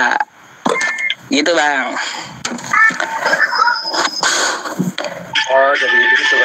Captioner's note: laughs